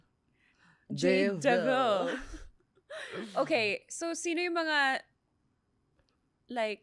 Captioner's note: laughs